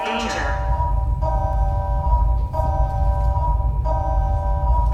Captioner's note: alarm keeps blaring; synthetic voice